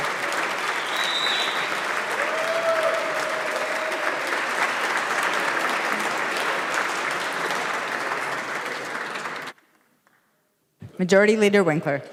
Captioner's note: applause